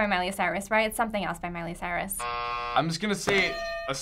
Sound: buzzer

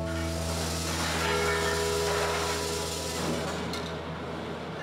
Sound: factory working

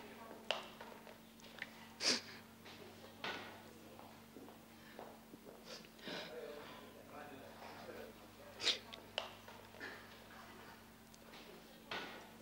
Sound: Sandra cries

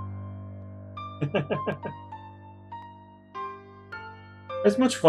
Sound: chuckles

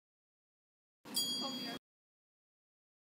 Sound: sound of store bell

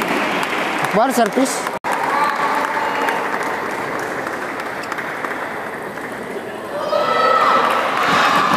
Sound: applause

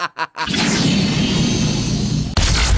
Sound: medigun heal sounds; medigun revival sounds

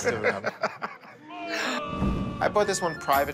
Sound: booing

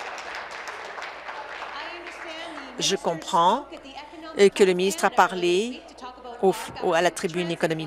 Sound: applause

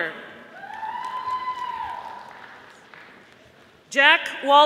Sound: audience applauding

